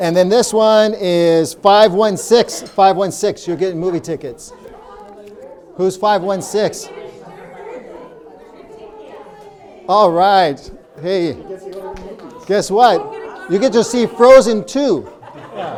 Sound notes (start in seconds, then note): 7.2 people talking; 14.8 audience laughing